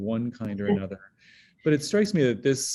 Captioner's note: chuckles